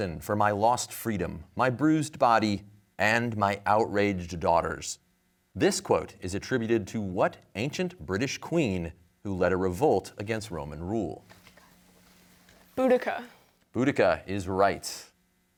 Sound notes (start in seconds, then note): 11.5 whispering